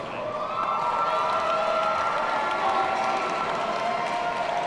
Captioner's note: audience cheering